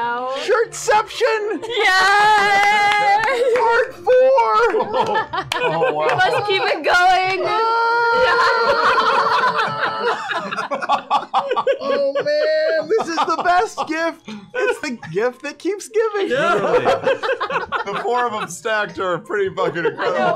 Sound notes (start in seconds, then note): 5.8 yells